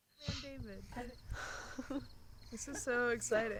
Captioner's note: laughter and small talk